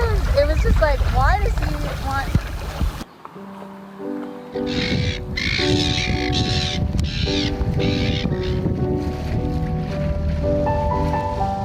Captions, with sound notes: - Because it was just like, why does he want. (gentle music) (birds chittering)